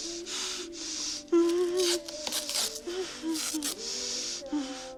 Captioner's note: whimpers